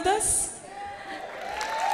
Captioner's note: applause